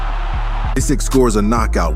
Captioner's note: crowd roaring